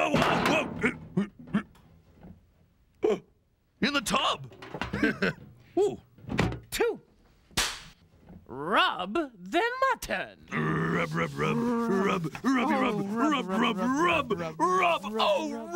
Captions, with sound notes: WHOA, WHOA! ( gasps ) IN THE TUB. ( laughs ) TWO-- ( cracks pointer ) "RUB THE MUTTON." RUB, RUB, RUB, RUB, RUBBIE, RUB... OH, RUB, RUB, RUB... OH, RUB!